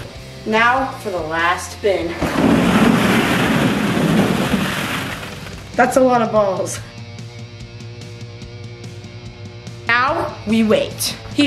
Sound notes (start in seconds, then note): 2.1 balls crashing; 7.3 upbeat music